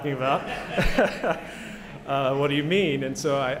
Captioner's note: laughter